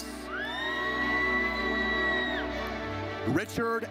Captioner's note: audience cheers